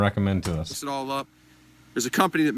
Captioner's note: mouse clicks